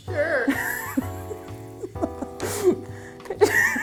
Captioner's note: laughing